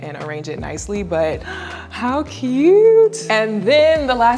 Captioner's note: gasps